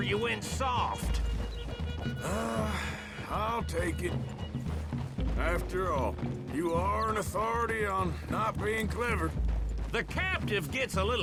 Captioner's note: sighs